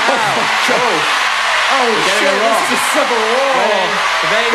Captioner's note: unintelligible screaming